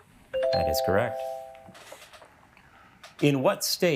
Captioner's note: bell ringing